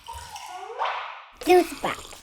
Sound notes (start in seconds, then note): 0.6 playful sound effects